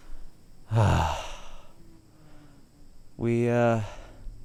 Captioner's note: sighing